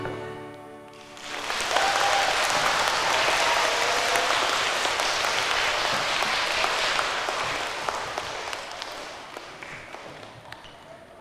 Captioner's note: applause